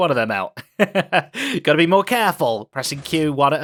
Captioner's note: laughs